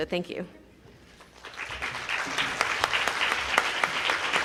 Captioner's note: group applauding